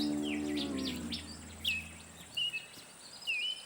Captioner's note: light guitar music; birds chirping; footsteps tapping